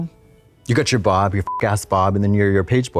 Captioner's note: beep